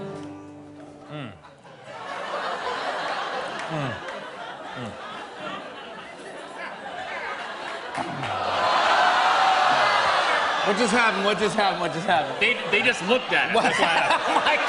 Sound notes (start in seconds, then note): 1.1 laughter; 7.5 audience groans